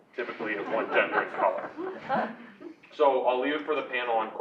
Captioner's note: laugh